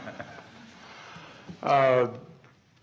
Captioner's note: laughter